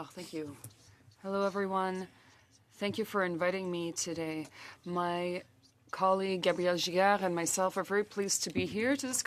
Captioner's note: speaking French